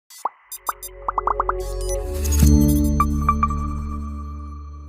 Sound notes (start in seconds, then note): 0.5 logos popping; 0.5 tranquil music